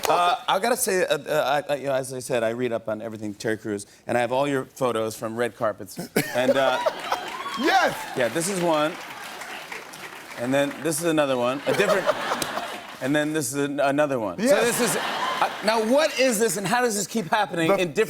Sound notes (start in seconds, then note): 6.5 cheering; 14.5 laughter